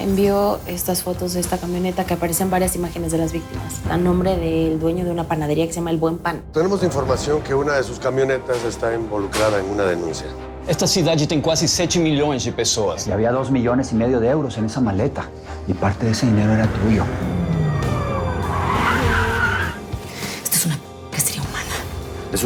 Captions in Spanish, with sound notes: - LE ENVIÓ ESTAS FOTOS DE ESTA CAMIONETA, QUE APARECÍA EN VARIAS IMÁGENES DE LAS VÍCTIMAS. ESTÁ A NOMBRE DEL DUEÑO DE UNA PANADERÍA QUE SE LLAMA "EL BUEN PAN". - TENEMOS INFORMACIÓN QUE UNA DE SUS CAMIONETAS ESTÁ INVOLUCRADA EN UNA DENUNCIA. - ESTA CIUDAD TIENE CASI 7 MILLONES DE PERSONAS. - Y HABÍA DOS MILLONES DE EUROS EN ESA MALETA. Y PARTE DE ESE DINERO ERA TUYO. [Chirrido de llantas] - ¡ESTO ES UNA ------ CACERÍA HUMANA!